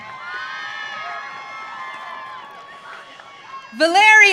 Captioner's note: audience cheering